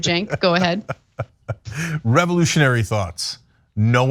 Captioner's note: laugh